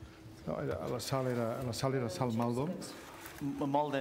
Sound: speaking catalan

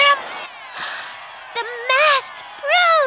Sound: gasping

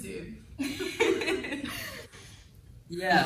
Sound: all laughing

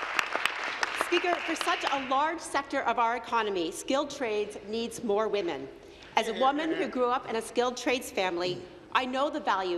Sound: applause

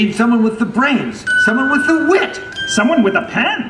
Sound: ding sound

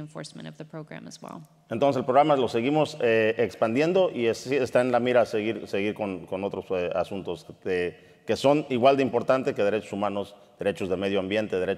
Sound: speaking in Spanish

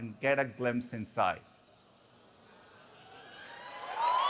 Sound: applause

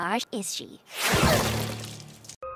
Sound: swoosh

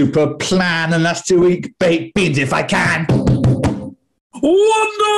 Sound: taps flourish on table

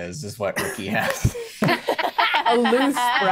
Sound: players laughing

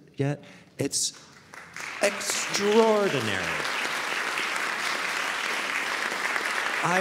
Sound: audience applauding

